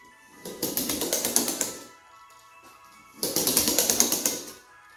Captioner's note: pencil clicking on wood